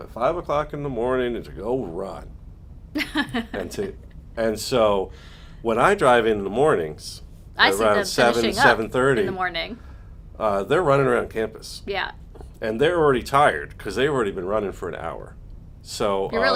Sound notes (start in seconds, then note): 2.9 laughs